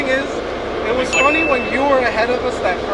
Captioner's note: ding